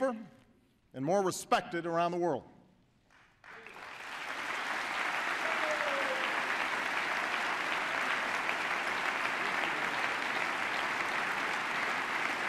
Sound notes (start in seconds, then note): 3.0 applause